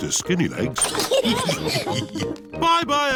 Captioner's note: all laugh